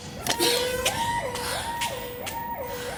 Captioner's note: Jen panting